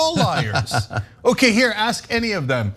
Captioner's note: laugh